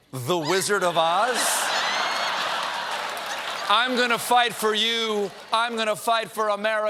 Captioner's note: laughter